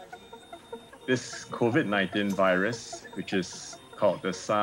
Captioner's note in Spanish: Dr. Yang hablando en inglés